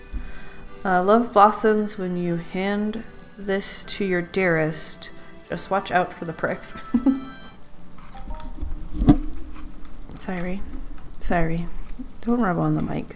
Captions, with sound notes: "Love blossoms when you hand this to your dearest just watch out for the pricks" *laughs* *sound of mic being hit* Sairie... Sairie! Don't rub on the mic.